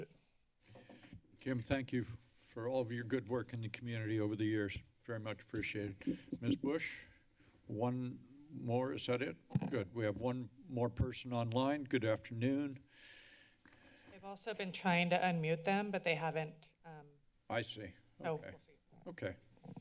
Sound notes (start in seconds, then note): 9.2 mic thump; 12.9 inhales